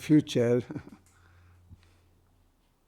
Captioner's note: laughing